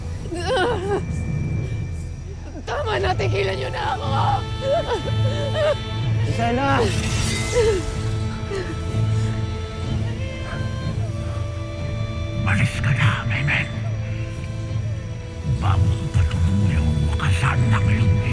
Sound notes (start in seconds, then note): 0.3 music fades; 4.3 sobbing; 6.6 sword swoosh; 8.0 ethereal music playing